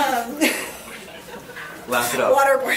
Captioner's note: laughs